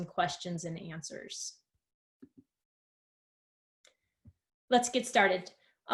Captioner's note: silence